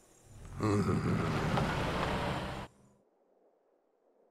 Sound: Doc groaning

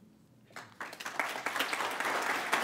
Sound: applause

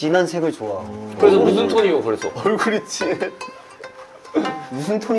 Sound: murmuring upon hearing such an uncommon reason

